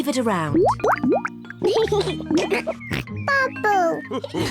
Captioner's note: laughs and snorts; all laugh